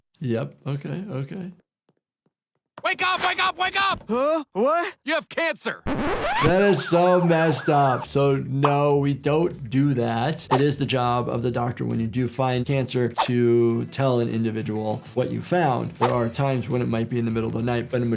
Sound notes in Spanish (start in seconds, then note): 5.8 la cinta se rebobina